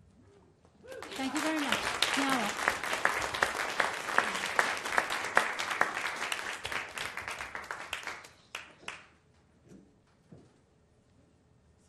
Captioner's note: applause